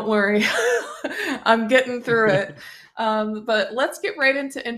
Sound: laughs

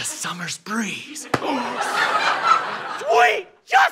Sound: smack

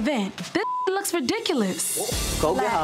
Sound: beep

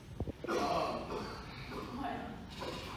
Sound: cough cough

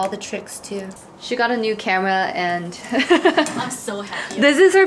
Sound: laughs

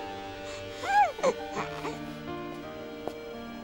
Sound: baby coos

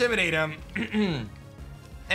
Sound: clears throat

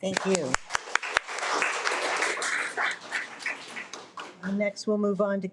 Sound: audience applauding

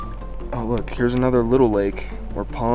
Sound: phone pinging

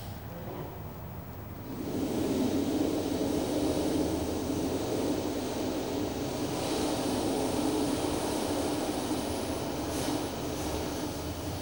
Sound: shri mataji blows into the microphone

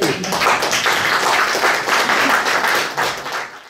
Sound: audience applauding

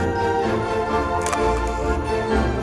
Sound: camera shutter click

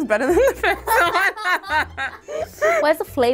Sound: everyone laughing

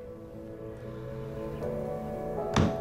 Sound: tapping desk thoughtfully

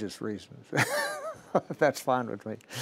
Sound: laughing

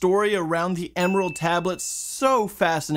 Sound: bell Dings

